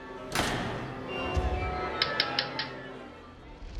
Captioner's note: orchestra warming up; conductor's baton taps